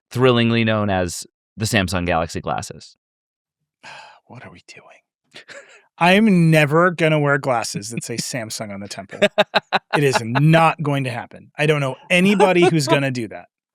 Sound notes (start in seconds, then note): 5.4 chuckles; 9.7 laughs